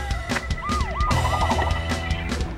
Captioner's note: siren wails